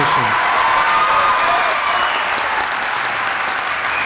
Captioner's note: audience applauds